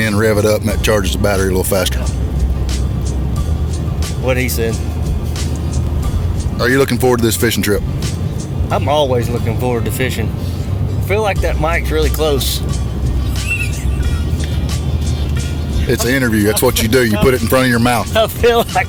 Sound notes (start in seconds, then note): 13.2 laughs